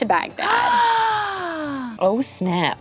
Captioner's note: gasps